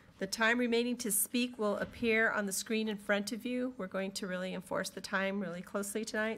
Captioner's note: none